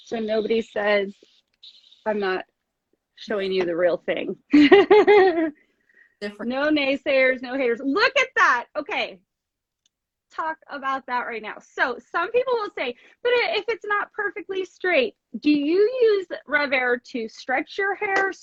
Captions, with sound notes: so nobody says I'm not showing you the real thing. (laughs) No naysayers, no haters. Look at that. Okay. Talk about that right now. So some people will say, but if it's not perfectly straight do you use RevAir to stretch your hair,